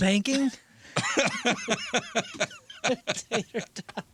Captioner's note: laughing